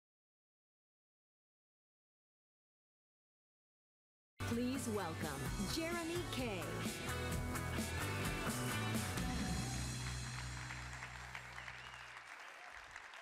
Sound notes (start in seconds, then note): 9.4 audience applauds